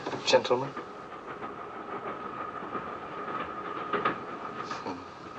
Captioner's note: train noise